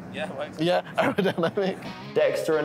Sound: laughing

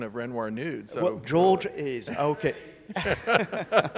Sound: man speaks faintly; all laughing

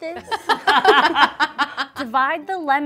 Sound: laughter

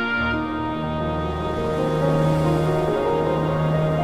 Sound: ocean sounds

